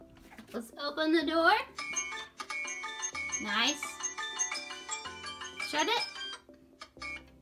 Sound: alarm sounds

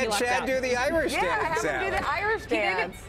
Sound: laughter

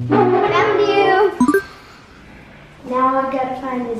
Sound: word chimes

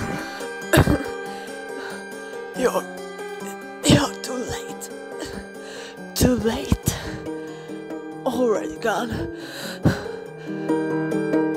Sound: velk coughs

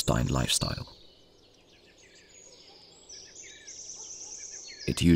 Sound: sounds of nature

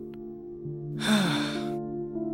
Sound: sighs

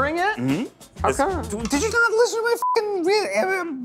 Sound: beep

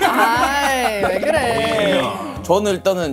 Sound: everyone murmuring

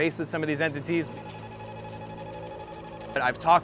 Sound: machine beeping

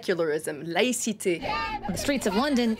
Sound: crowd chanting

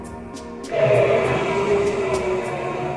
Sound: roaring

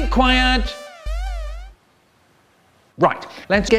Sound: awkward pause

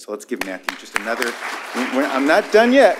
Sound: applause

